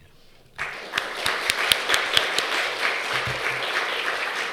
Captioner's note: audience clapping